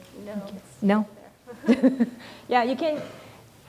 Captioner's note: laughs